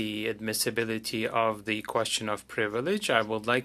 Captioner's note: speaking French